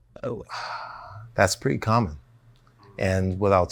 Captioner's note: sighs